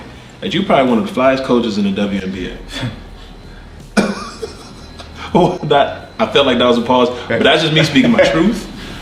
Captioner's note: laughs